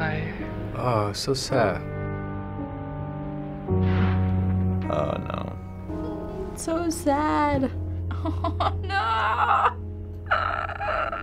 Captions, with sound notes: - Oh, so sad. - Oh no. - It's so sad. - (cries) Noo.